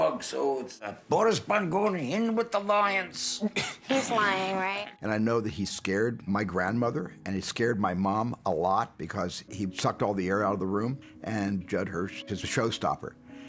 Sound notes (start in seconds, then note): 3.5 Sammy chuckles